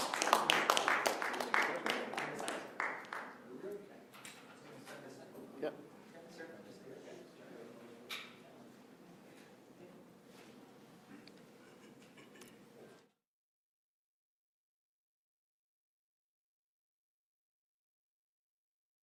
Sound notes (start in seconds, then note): 2.8 applause